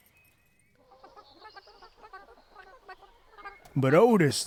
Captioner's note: chickens clucking